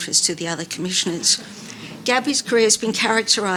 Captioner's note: audience laughing